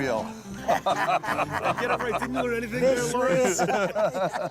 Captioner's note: laughter